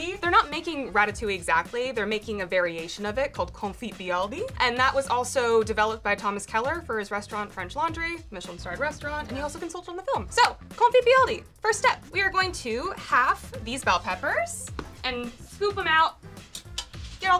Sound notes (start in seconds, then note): none